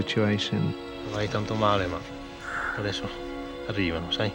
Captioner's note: speaking foreign language